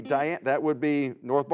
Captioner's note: buzzer sounds